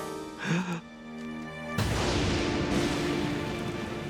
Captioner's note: gasping; thundering